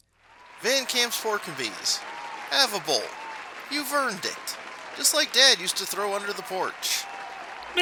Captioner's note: applause in background